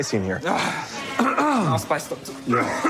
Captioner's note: clears throat; coughs